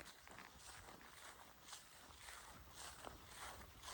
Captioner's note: footsteps